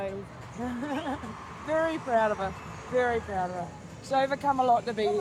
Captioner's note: chuckles